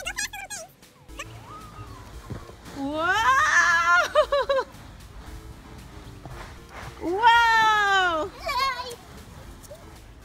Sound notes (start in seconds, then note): 3.0 laughing